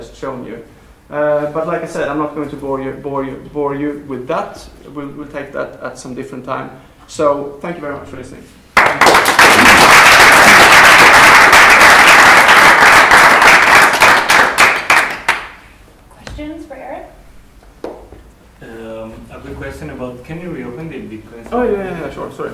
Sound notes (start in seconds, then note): 8.7 applause